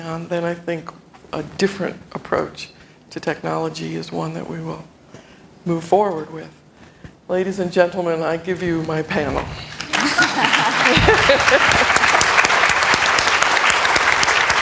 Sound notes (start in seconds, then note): 9.8 applause